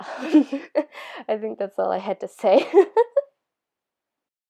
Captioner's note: laugh; laughter